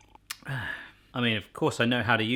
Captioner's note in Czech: mlasknutí a výdech